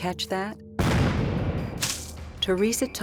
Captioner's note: gunshot